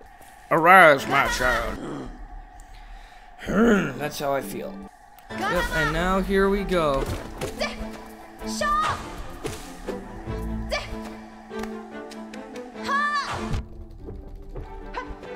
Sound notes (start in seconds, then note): 0.4 stag Beetle makes noise